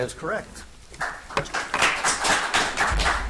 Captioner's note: audience applauds